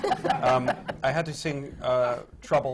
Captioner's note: laughter